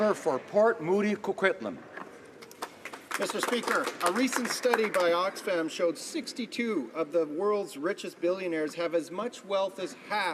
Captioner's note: applause